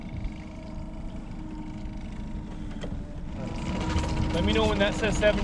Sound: boat engine idling

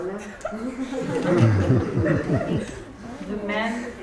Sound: students laughing

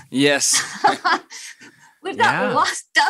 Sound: chuckles

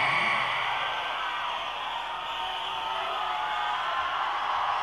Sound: audience cheering

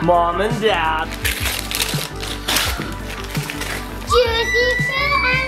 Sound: uplifting music; paper crinkling

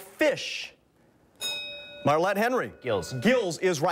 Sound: bell rings

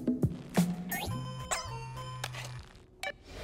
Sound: phone chiming

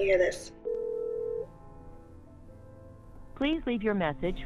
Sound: phone rings

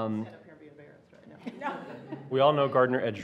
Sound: laughing

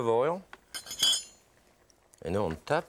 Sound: utensils clinking

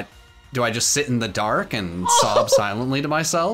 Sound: laughing

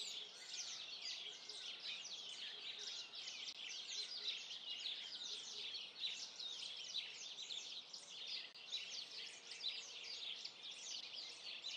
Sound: birdsong

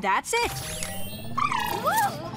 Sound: whirring; trilling

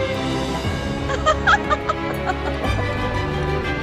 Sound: loving ai laughing!

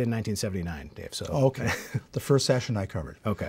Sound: laughs

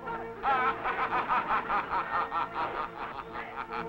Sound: Starman laughing

